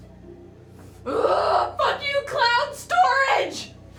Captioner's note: grunts